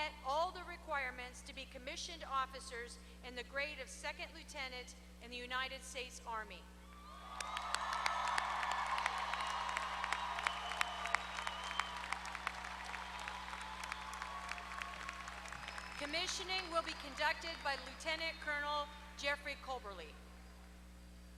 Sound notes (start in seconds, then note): 7.1 applause